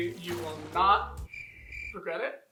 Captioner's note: crickets